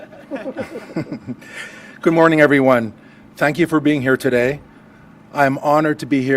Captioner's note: laughter